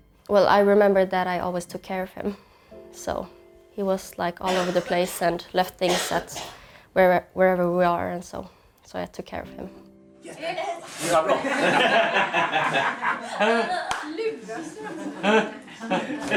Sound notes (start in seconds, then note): 11.1 laughing